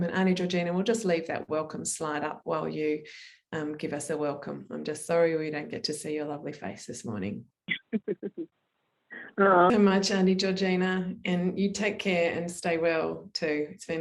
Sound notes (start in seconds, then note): 7.7 chuckles